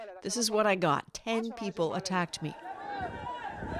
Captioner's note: speaking alternate language